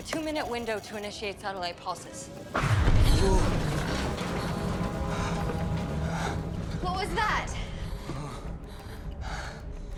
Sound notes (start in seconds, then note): 2.6 booms; 2.7 building creaks